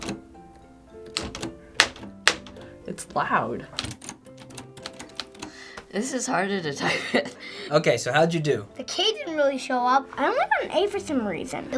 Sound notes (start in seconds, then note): 1.6 loud clacking